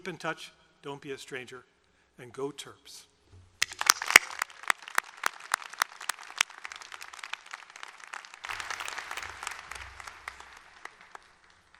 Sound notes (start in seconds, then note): 3.6 applause